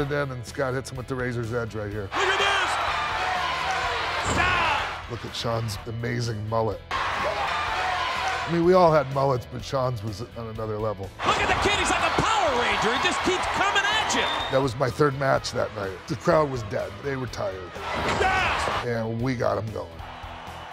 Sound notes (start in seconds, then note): 3.5 applause